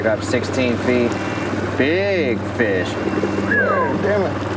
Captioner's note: whistling; speaking faintly